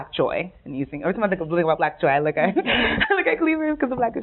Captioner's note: laughing